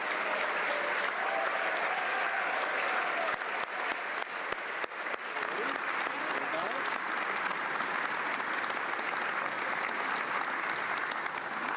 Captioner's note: cheering & Applause